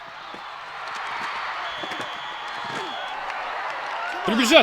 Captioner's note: crowd cheering